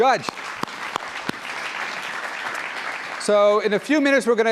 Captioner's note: applause